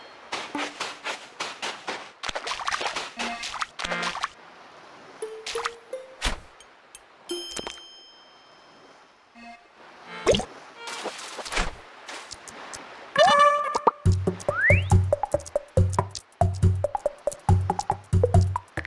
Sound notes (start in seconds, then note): 0.2 footsteps; 0.3 stepping into water